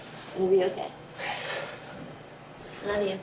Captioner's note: sighs